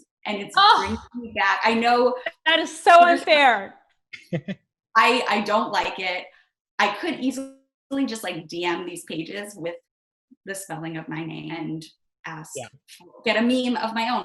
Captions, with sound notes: -Ugh! -And it's bringing me back-- -I know... -That is so unfair. -(chuckles) -I-I don't like it. I could easily just, like, DM these pages with the spelling of my name, and ask-- get a meme of my own.